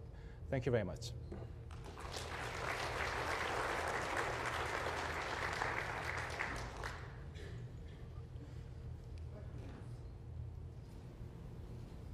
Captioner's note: applause